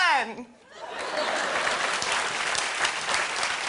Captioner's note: laughter and applause